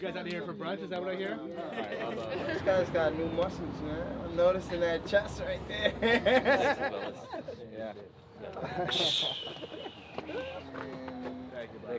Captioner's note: laughter